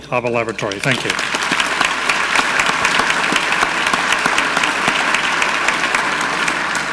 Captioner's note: audience clapping; clapping